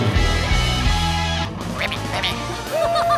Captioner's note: ribbiting